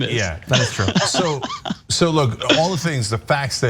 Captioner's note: laugh